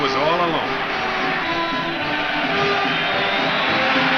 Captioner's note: crowd cheers